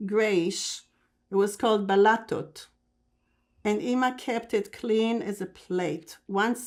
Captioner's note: non-english